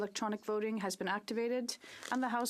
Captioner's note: speaking French